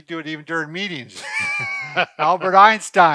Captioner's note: laughing